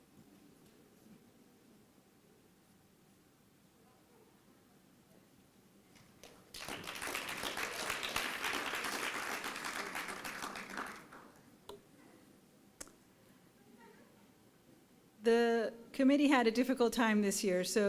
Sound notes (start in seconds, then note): 6.0 applause